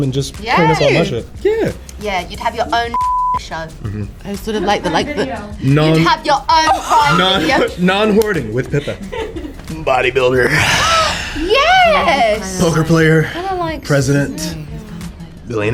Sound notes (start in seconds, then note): 9.4 crew laughs